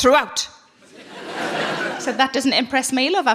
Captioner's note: audience laughing